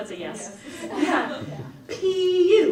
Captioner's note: audience laughs